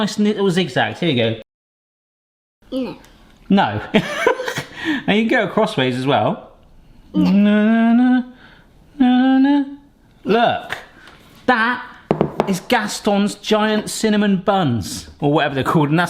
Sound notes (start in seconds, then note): 3.8 laughs; 8.9 humming